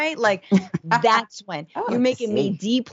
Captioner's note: laugh